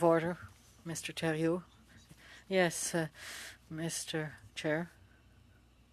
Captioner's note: speaking French